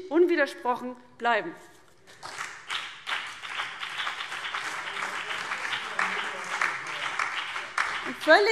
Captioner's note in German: Beifall CDU, BÜNDNIS 90/DIE GRÜNEN und vereinzelt DIE LINKE - Zurufe